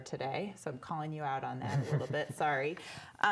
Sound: laughing

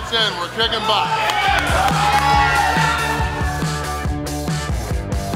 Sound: crowd cheering

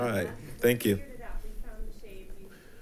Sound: people chuckle

